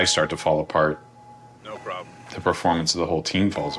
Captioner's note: bell ringing